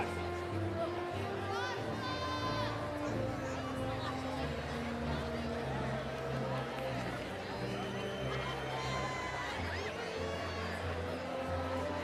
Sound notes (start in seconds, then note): 5.2 cheering continues; 5.2 inspirational music